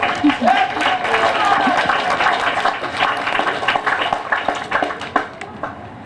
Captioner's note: applause